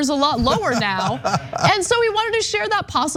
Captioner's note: laugh